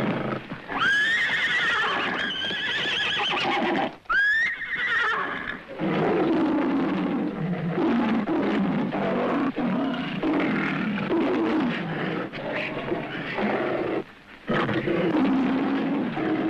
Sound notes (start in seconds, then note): 2.3 horse neighing; 5.8 lion roaring